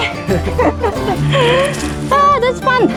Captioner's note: laughing